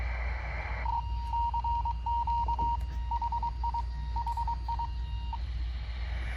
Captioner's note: FM radio noise, cw.wav Morse code